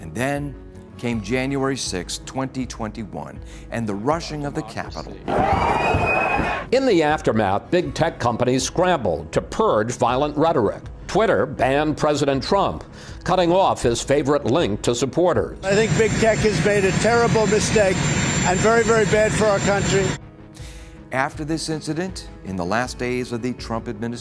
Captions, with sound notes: AND THEN CAME JANUARY 6TH, 2021, AND THE RUSHING OF THE CAPITOL. [SCREAMING]. IN THE AFTERMATH, BIG TECH COMPANIES SCRAMBLED TO PURGE VIOLENT RHETORIC. TWITTER BANNED PRESIDENT TRUMP, CUTTING OFF HIS FAVORITE LINK TO HIS SUPPORTERS. I THINK BIG TECH HAS MADE A TERRIBLE MISTAKE AND IT'S VERY, VERY BAD FOR OUR COUNTRY. AFTER THIS INCIDENT, IN THE LAST DAYS OF THE TRUMP